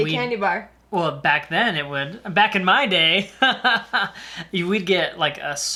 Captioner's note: laughing